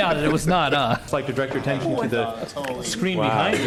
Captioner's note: laughter